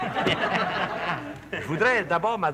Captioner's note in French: rires